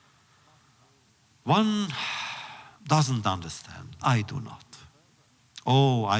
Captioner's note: sighs